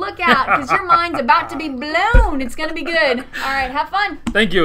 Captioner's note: chuckling